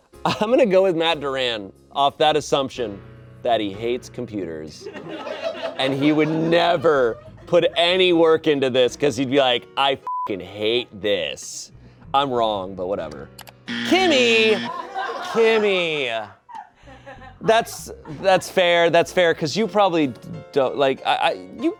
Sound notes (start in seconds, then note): 10.0 beep; 13.6 buzzer